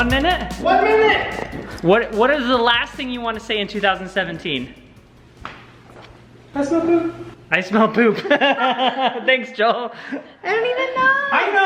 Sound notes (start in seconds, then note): 8.3 laughs